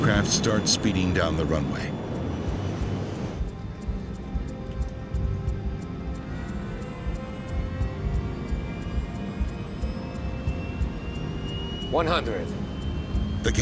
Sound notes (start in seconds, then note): 3.0 engine humming; 3.0 gentle quiet music